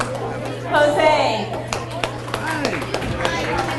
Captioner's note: audience applauds